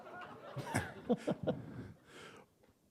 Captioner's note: chuckle